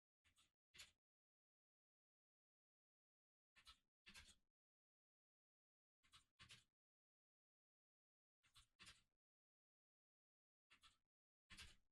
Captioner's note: typing sounds